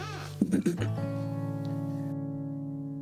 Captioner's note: chukles; clears Throat